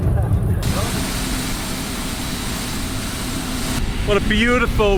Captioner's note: plane engine roaring